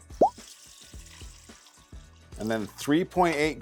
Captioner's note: item pops; water trickles